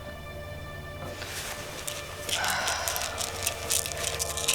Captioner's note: pills rattling